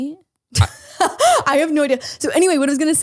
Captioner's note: laughs